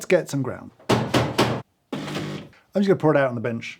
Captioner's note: portafilter pounding